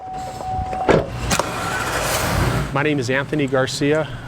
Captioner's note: door shuts, engine starts